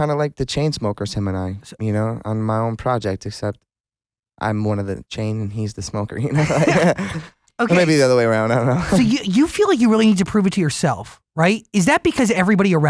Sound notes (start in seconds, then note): 6.3 laughs